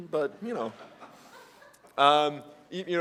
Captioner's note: laugh